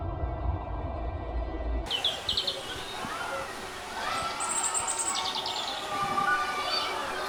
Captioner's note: children yelling; children laughing; water splashing